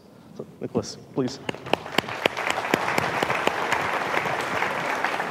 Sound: audience applauding

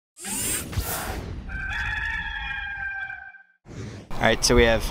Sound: rooster crowing

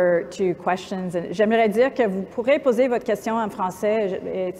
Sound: speaking french

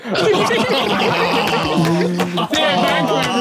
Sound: everyone laughing

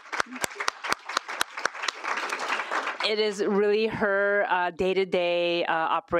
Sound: applause

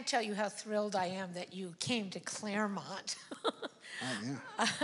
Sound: laughs

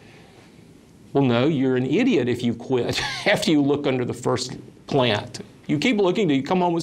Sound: laughs

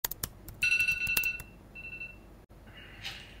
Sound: phone alarm rings

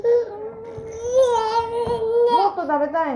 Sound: cries

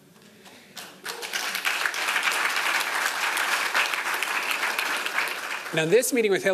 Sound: applause

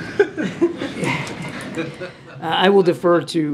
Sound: laughter

